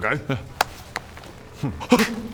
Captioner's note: pow!; whack!